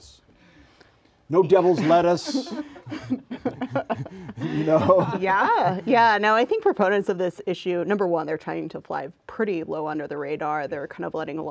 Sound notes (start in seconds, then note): 1.4 laughter